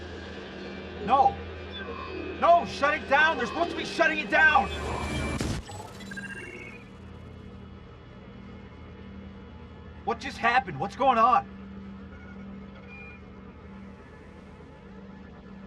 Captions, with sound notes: No! No! Shut it down. They're supposed to be shutting it down. (computer chirps) What just happened? What's going on?